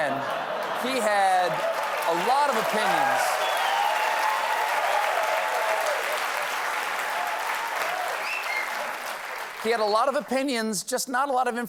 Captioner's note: cheers and applause